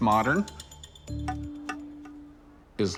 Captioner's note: tapping